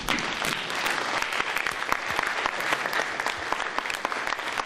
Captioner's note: applause